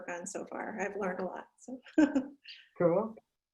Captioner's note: laugh